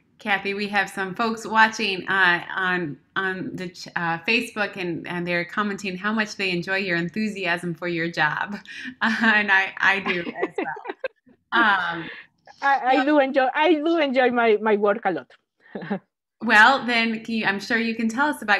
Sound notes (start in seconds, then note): 11.5 laughs